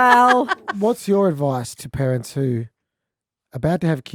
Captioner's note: all laughing